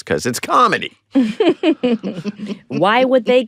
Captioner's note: all chuckle